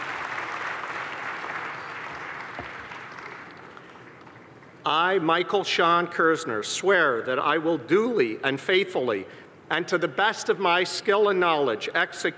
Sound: applause

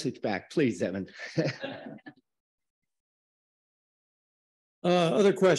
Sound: audience laughing

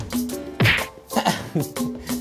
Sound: smack!!

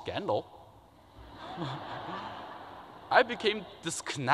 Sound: laughter

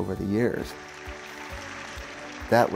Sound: audience applauds

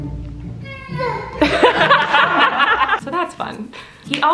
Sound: laughter

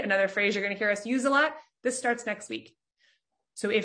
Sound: none

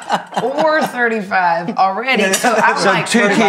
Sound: chuckles

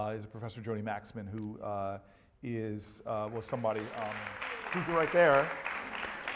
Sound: applause

